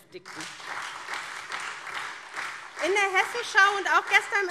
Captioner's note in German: Beifall SPD und Freie Demokraten - Minister Kai Klose schüttelt den Kopf